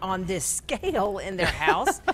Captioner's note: both laugh